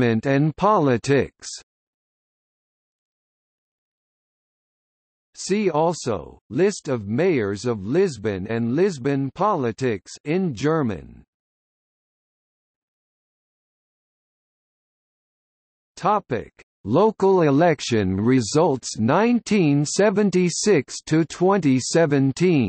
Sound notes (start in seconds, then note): 12.9 in German